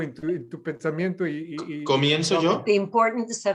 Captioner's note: non-english speech